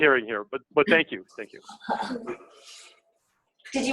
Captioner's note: laughter